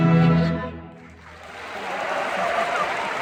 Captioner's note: crowd cheers and applause